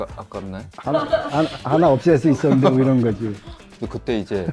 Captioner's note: laughs